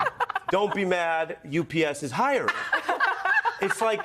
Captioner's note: laughs